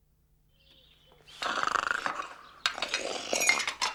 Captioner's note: snoring